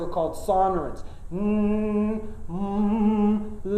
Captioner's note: humming